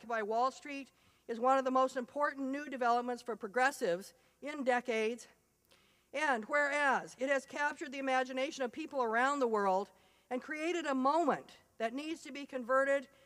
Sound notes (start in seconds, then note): none